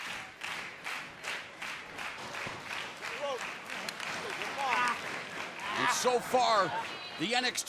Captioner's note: crowd cheering